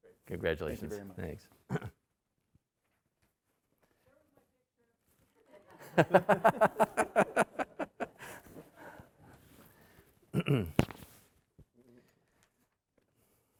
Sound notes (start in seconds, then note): 5.8 emcee laughing